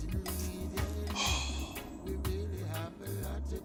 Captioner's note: sighs